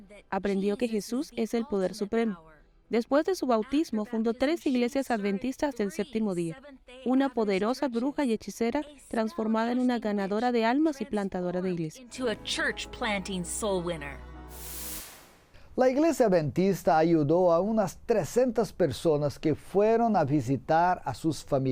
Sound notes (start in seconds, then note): 12.1 Hablando idioma extranjero